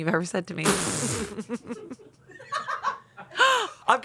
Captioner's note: everyone laughs